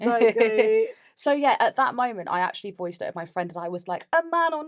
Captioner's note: laughs